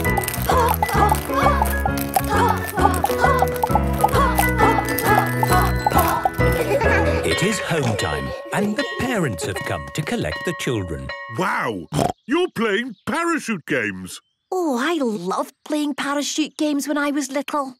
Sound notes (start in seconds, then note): 6.5 laughter; 11.5 snorting